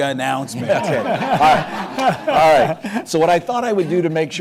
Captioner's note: laughter